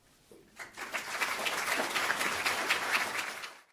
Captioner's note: audience applauding